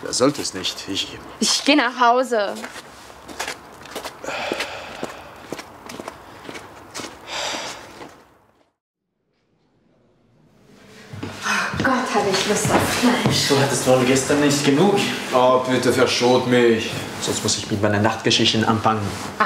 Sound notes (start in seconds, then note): 4.2 exhales